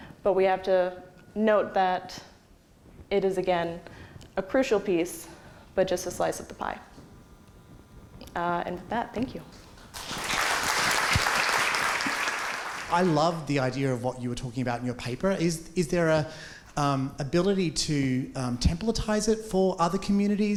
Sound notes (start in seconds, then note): 9.9 applause